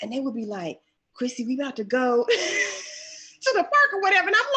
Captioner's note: laughs